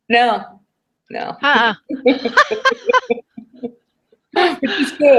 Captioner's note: laughter